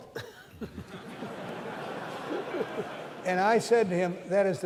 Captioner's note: laughter